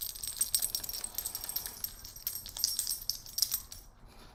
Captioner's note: jingling background sounds